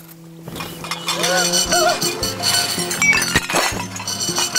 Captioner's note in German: Erschrockener Schrei, Geschirrklappern